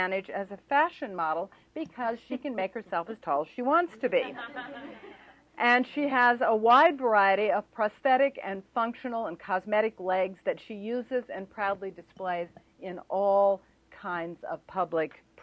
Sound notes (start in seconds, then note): 4.0 laughter